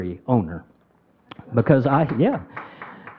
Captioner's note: crowd applauding